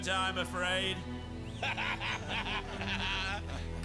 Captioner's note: laughing